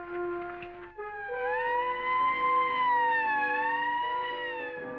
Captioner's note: sirens blaring